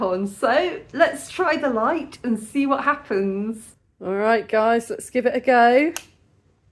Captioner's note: click